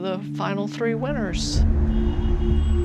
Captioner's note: car horns honking